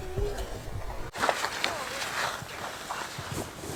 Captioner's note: crashing